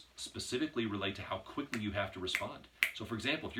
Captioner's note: snaps